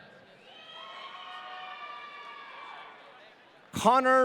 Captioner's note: audience cheering